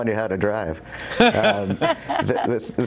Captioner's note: laughter